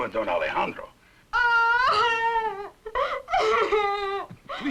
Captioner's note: crying